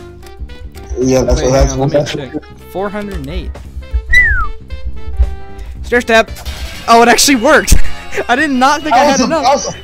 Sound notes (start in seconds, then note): 4.0 whistle